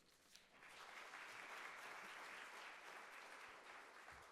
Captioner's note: audience applauding